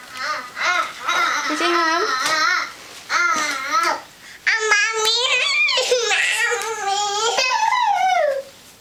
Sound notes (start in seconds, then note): 5.2 crying